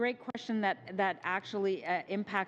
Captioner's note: speaking French